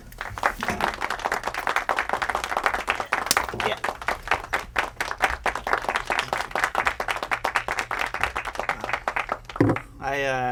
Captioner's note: audience applause